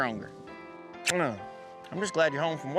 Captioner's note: smooch